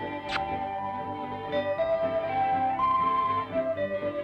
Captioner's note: kissing smack